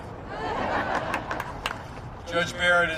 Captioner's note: laughter